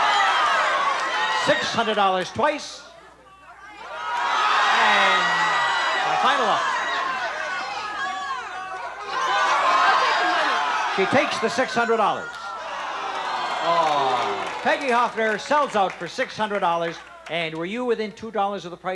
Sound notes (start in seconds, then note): 0.0 audience shouting; 3.2 audience shouting; 13.6 audience disapproval